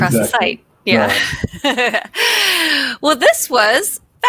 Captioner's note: laughs